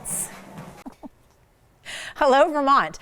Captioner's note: chuckles